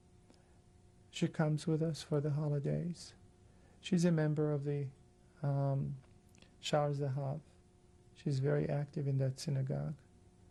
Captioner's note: hebrew